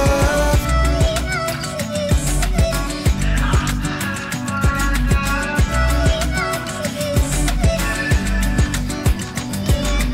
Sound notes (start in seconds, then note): 0.2 deep female voice; 5.4 deep female voice